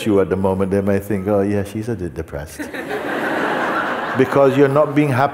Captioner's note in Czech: smích